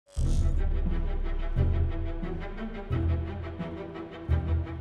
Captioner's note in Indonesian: suara pembuka; suara pembuka